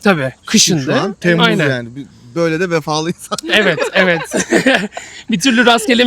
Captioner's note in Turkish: kahkaha